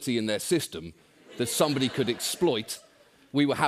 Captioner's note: laughter